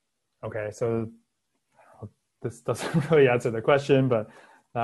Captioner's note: laughing